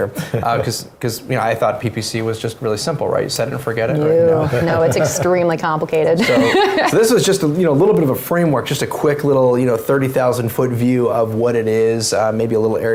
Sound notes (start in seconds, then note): 4.2 laughs